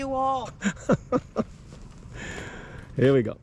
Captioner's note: laughter